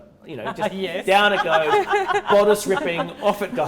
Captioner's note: laughs